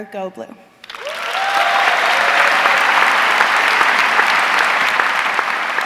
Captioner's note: audience cheering